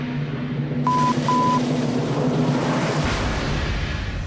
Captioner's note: beep